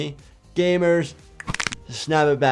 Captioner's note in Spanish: crujir huesos